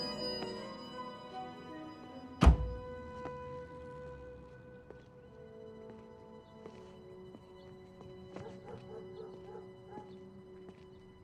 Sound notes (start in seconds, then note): 2.4 A sound of a car door closing